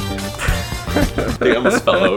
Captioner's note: laughing